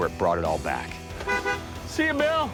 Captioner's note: two honks